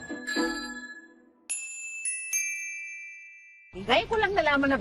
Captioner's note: tinkling